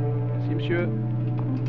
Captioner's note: French spoken audio